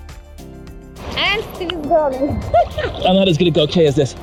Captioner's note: laughing